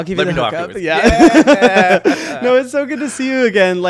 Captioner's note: both laughing